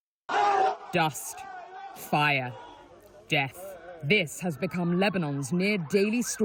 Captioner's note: voice-over